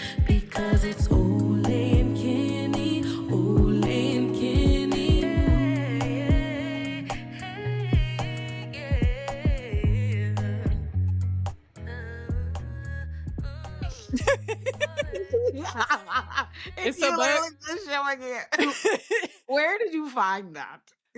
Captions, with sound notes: Because it's Ole and Kenny Ole and Kenny Yeah, yeah, yeah, yeah Yeah, yeah, yeah (upbeat music) (both laughing) Where did you find that?